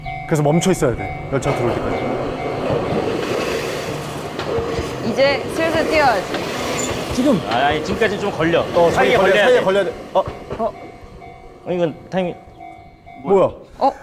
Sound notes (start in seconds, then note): 2.6 the train's approaching